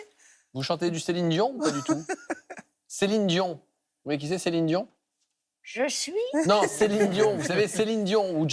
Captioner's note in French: rires